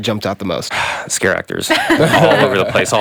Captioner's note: everyone laughs